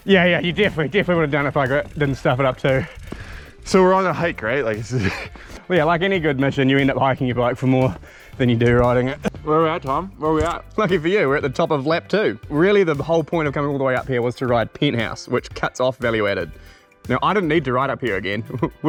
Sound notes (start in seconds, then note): 4.8 laughs